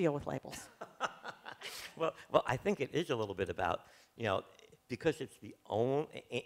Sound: laughs

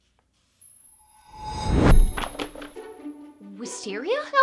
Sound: magical whoosh

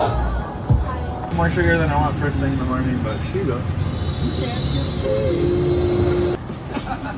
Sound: barista talking

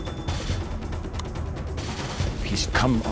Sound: gun cocking

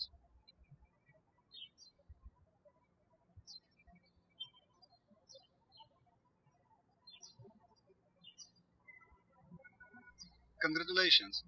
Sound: birds chirping

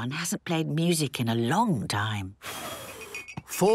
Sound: blows

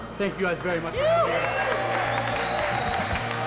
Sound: cheering; applause

